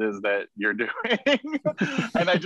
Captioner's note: laughing